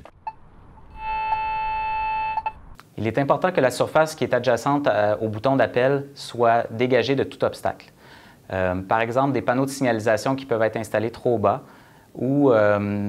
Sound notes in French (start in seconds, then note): 1.0 signal sonore